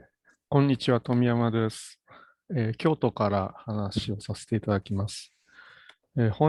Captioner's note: speaks in Japanese